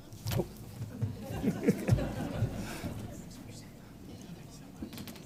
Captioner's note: audience laughs